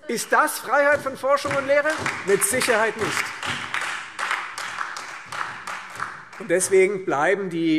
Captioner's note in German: Beifall Freie Demokraten, SPD und DIE LINKE